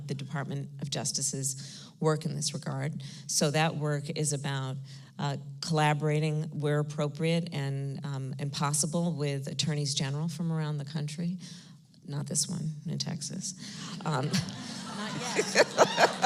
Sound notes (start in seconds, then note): 13.8 laughter